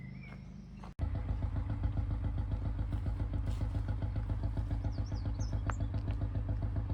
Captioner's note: canal boat engine noise